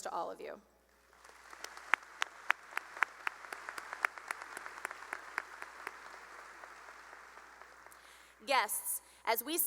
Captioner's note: applause